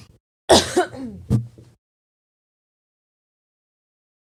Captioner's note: coughing